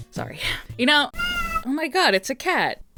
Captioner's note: cat meow